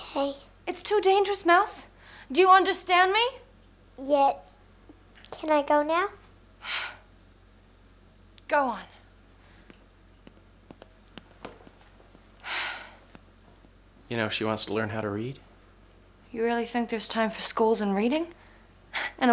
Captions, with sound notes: - Okay. - It's too dangerous, Mouse. Do you understand me? - Yes. Can I go now? (sighing) - Go on. (sighing) - You know, she wants to learn how to read. - You really think there's time for schools and reading?